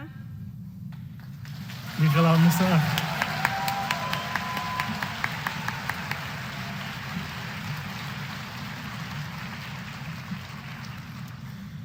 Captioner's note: applause